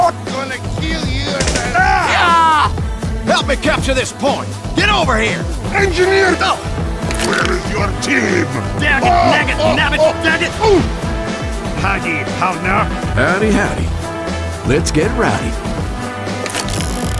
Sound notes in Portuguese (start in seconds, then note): 7.2 Engenheiro resmunga; 7.2 Heavy Guy rí; 11.6 Imitando sotaque